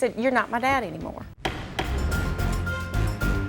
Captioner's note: gavel pounds; dramatic music